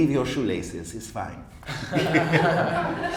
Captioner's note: laughs